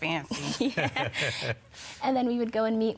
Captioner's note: laughs